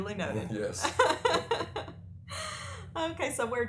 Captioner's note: laughter